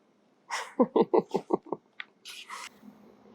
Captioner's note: laughing